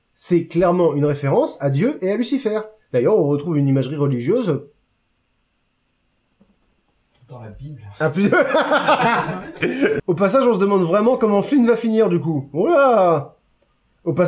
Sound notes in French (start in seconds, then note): 8.2 rires